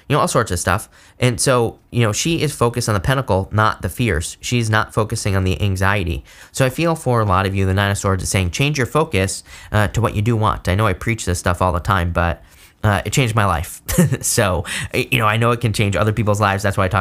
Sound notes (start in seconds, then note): 13.8 laughs